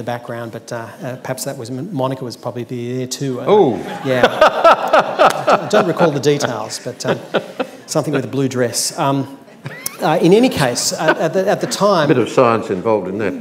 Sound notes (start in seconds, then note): 3.8 laughs